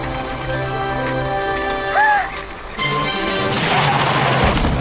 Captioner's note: gasping